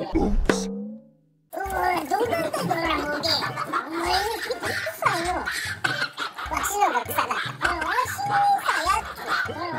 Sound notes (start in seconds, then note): 2.7 boss monkey calling; 5.7 boss monkey laughing; 6.6 boss monkey chuckles; 7.8 laughter